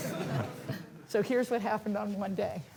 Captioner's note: laughter